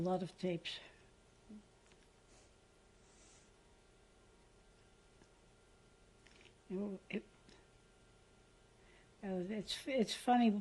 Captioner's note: pauses for 6 seconds